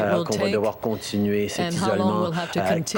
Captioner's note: speaking French